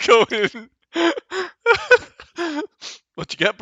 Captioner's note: laughs